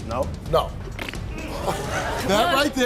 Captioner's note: blowing a raspberry